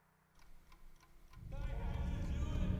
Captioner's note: clock ticking